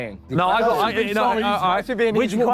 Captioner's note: panel arguing